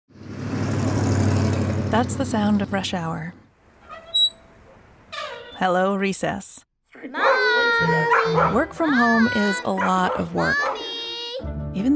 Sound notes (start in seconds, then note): 0.1 engine rumbles; 3.8 squeak; 7.1 barking